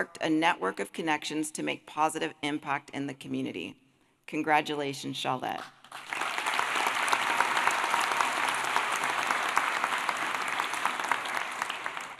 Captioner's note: applause